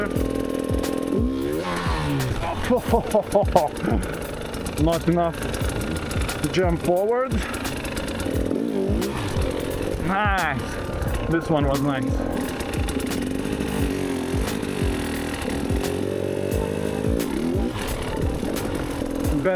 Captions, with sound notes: (laughing) Not enough to jump forward. Nice, this one was nice.